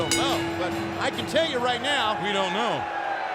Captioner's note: bell ringing